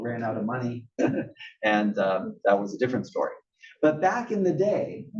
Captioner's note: laugh